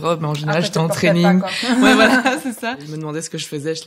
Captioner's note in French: rires